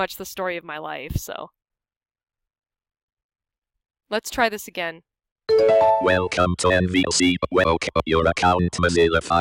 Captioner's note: NVDA voice speaking